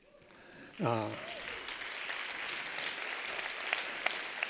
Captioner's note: applause